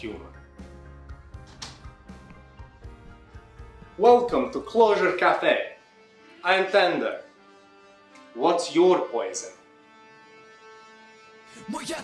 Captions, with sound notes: [Door opens and closes] [Footfalls approach bar] Welcome to Closure Cafe! I'm Tender. What's YOUR poison?